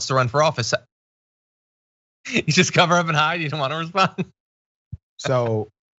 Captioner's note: laugh